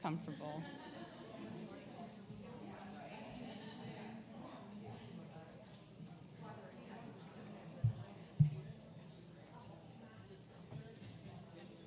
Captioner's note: background chatter